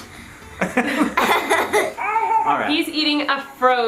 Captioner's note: laughs